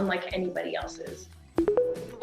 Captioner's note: tones